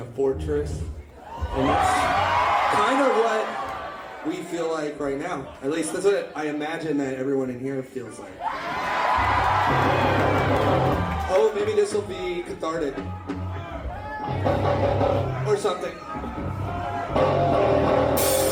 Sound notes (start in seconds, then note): 1.2 crowd Cheering; 8.4 more cheering